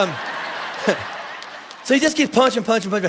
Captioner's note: congregation laughing